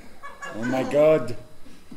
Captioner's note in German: Französischer Akzent